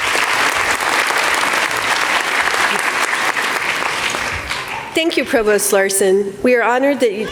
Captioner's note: applause